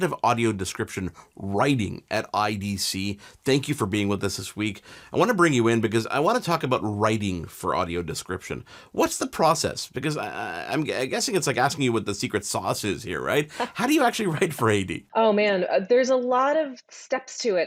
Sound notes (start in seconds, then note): 13.2 laughs